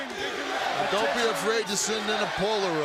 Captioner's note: crowd chatter